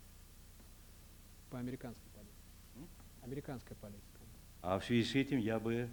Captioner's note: non-english speech